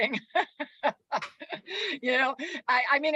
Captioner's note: laughs